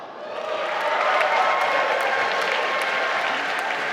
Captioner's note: applause